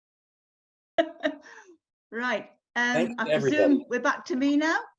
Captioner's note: chuckles